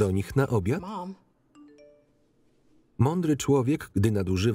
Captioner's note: phone beeps